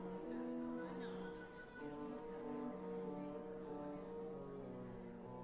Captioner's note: chatter